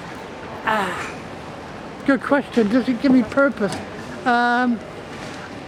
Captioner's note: sigh